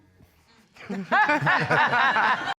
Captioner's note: all laugh